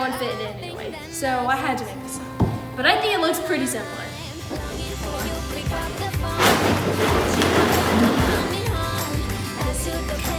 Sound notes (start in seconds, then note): 6.5 dragging sound